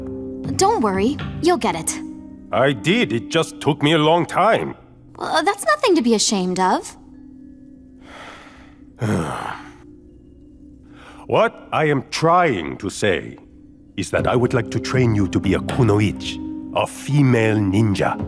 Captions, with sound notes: Don't worry. You'll get it. I did. It just took me a long time. That's nothing to be ashamed of. [sighing] What I am trying to say... is that I would like to train you to be a Kunoichi, a female ninja.